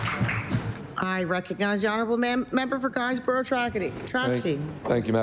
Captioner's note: applause